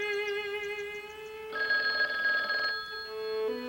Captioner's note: phone ringing